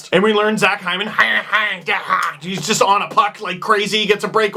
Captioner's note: tazmanian Devil Noise